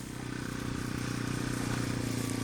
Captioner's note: motorcycle rumbling